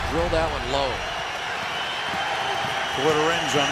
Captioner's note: crowd cheering